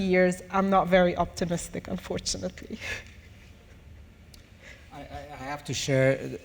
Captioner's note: chuckles